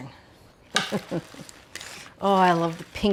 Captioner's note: Julia laughs